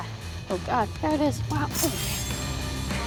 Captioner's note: sword rasps